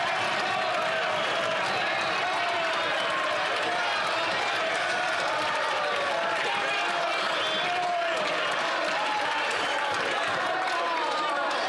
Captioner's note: some Applause